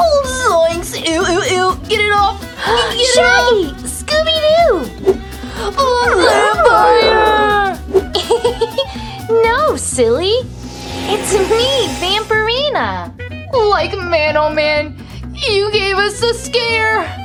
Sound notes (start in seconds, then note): 8.0 laughs